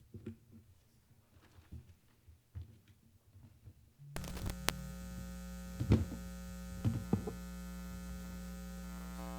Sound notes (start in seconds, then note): 4.1 mic buzzing and clanking